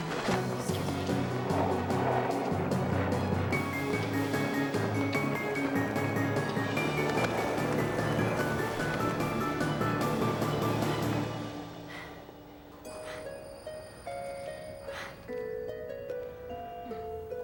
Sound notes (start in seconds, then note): 12.6 panting